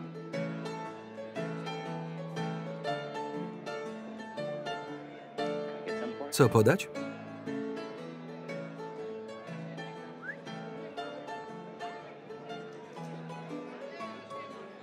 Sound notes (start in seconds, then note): 10.1 whistles